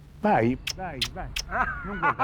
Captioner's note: kissing; Hank laughing